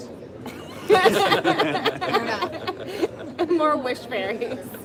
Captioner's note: laughter